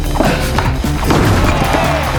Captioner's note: player laughs; air whooshes; audience cheers and applauds